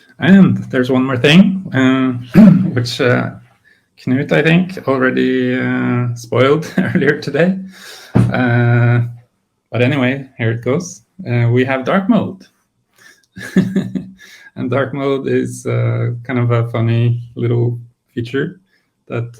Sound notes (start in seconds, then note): 13.3 laughs